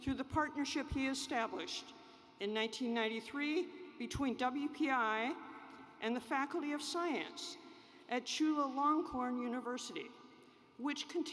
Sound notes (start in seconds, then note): none